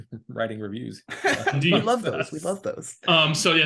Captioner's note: laughing